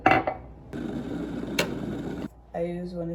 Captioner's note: kettle